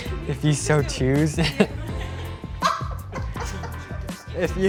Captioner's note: laughter